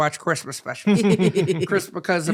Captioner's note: laughing